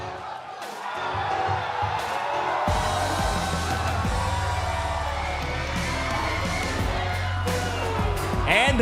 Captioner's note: cheers & boos